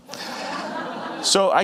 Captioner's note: audience laughing